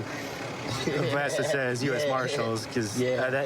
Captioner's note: laughing